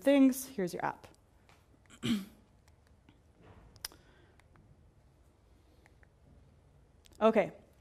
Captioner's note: cough